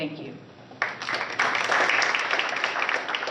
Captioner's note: applause